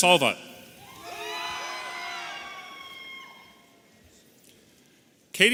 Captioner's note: audience cheering